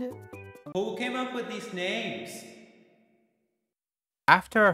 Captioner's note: in reverb